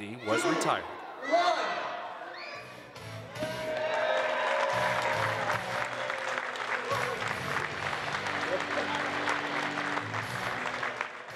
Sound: applause

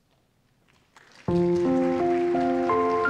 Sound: applause

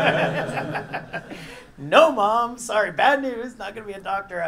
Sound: laugh

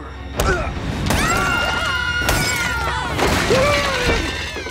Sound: screaming

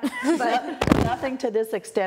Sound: laughing

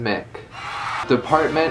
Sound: applause

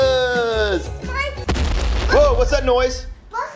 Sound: stomping noise

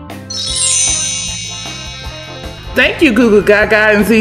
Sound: sparkling sounds

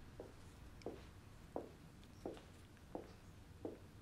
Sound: footsteps

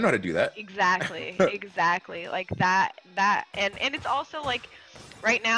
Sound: laugh

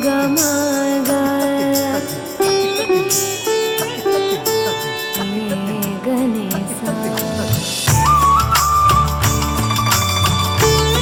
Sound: applause

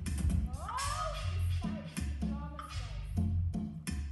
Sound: background chatter

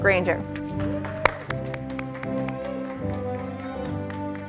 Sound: audience applauding

